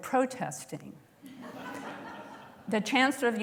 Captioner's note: laughter